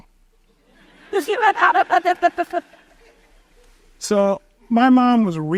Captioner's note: audience chuckles